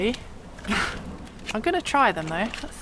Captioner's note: sniggers